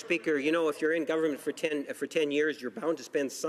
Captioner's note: applause